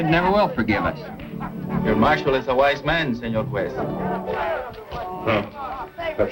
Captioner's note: spanish